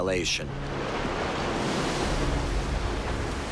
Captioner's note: waves crashing